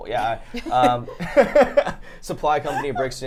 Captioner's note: laughing